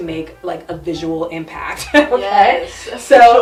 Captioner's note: chuckles